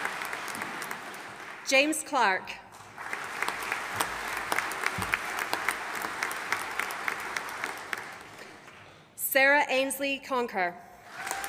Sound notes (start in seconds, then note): 2.8 audience applauding